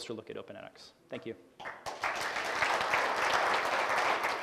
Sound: clapping

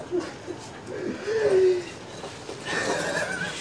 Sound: man sobbing

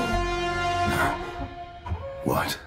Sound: Prime grunts

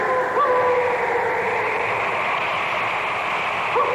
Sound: wolf howling

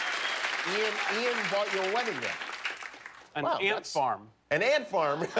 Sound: cheers and applause

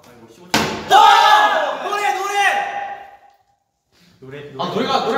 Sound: AAaaAAAAAaaAHhh

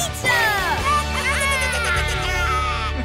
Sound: squeaking

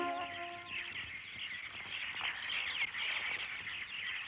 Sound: birds Chirping

